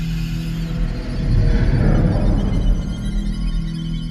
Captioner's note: incubus roars